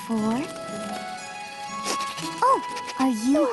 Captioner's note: sniffing